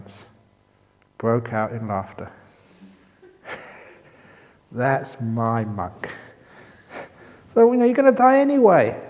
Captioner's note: chuckle